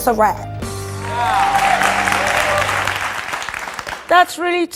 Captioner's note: audience applauds